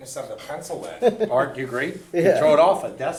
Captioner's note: voiceover